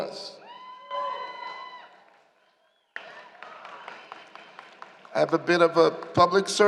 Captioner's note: applause